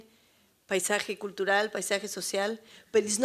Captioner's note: spanish